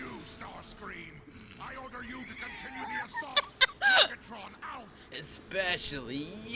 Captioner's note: laughs